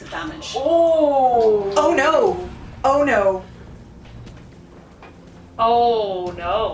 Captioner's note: lots of distressed noises